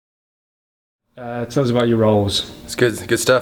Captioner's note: voiceover